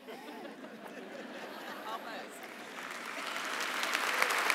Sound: laughter; applause

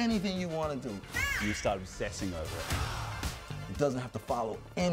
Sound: exclaims

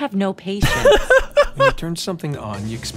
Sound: laughs

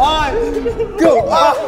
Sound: bang

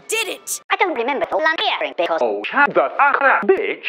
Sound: mockingly

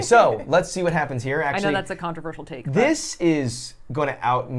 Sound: none

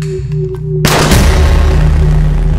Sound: gunshot

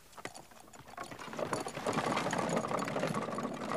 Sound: carriage rattles

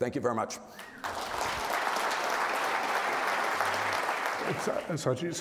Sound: crowd applauding

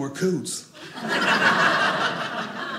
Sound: audience laughing

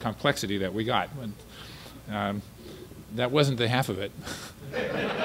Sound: laughter

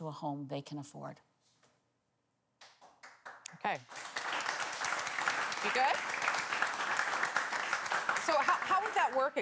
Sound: applause

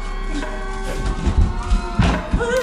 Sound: earthquake

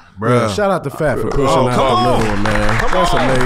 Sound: everyone applauds

